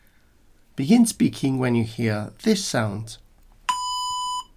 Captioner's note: beep